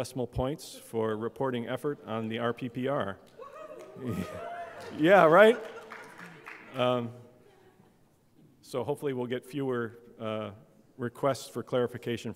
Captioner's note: applause and laughter